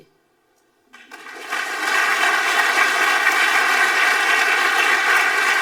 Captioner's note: audience applauding